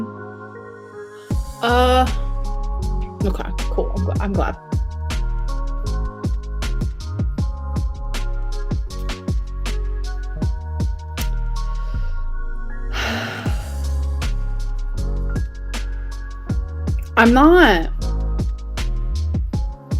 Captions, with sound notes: Okay, cool, I'm glad. (sighs) I'm not.